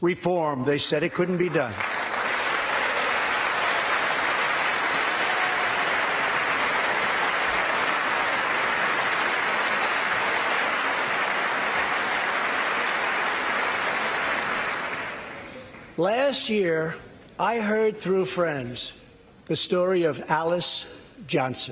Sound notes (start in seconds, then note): 6.5 applause